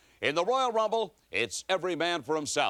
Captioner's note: none